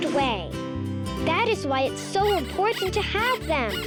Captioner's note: bunny squeaking